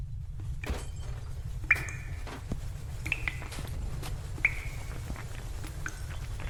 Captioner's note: items clattering; water pattering